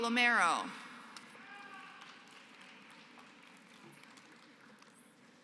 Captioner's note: applause